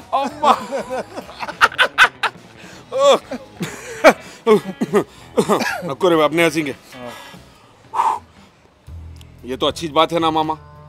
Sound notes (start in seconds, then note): 4.5 Controls Laugh; 7.8 Pheww